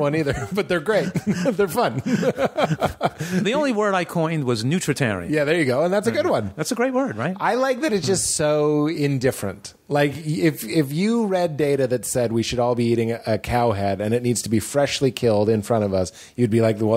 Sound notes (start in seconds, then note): 0.2 laughter; 0.8 laughs